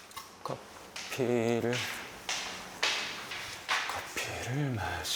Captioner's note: talking to himself; talking to himself again